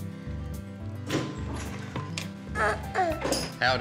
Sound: door opens

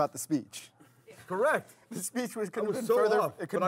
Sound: voiceover

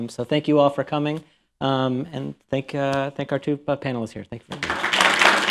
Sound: applause

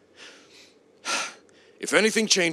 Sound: exasperated sigh

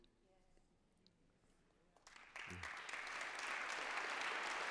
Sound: applause

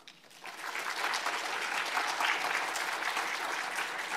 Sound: audience applauds

